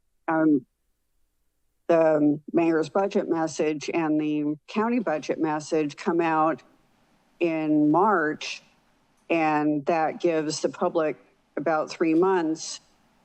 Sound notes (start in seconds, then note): none